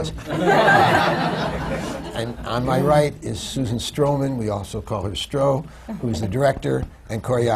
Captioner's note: laughter